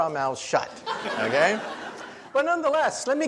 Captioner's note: audience laughs